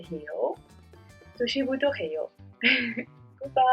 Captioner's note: speaking in Korean